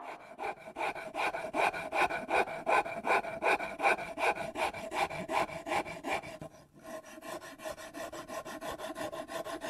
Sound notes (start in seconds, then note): 0.6 wood grinding